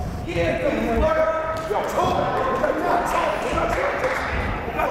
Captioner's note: yelling